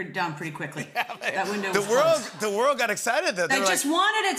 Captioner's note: laughter